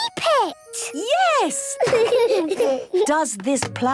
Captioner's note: laughter